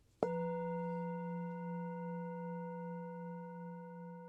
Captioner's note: bell chimes softly